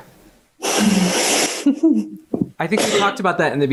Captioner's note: laughs